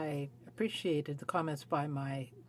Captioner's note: speaking French